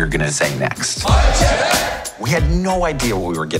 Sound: group shouting

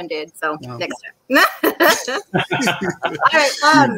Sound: laughs

